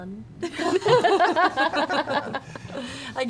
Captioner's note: more laughter